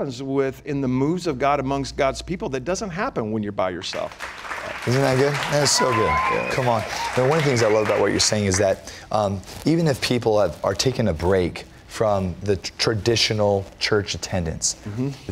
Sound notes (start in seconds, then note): 3.9 applause